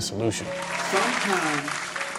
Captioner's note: cheers